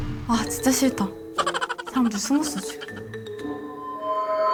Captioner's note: giggles; dreary music